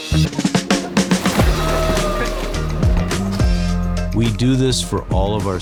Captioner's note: upbeat music continues; water splashes